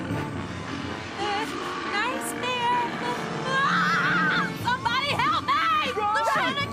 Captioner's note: screaming